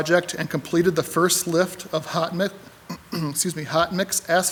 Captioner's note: clears throat